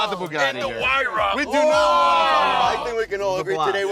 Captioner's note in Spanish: gemidos